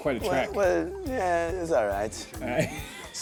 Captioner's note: laughs